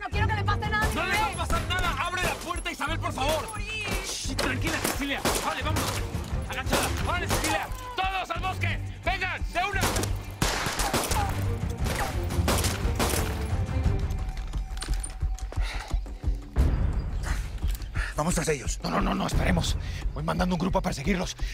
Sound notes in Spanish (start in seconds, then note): 9.8 Disparos